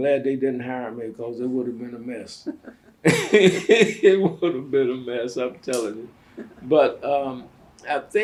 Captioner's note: laughs